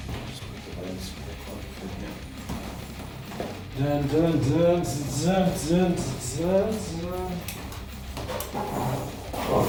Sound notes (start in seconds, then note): 4.7 humming